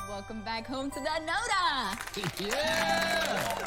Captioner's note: cheering